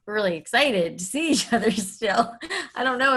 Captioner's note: laughs